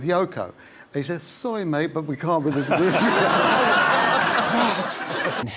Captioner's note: laughs